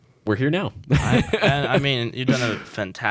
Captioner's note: laughing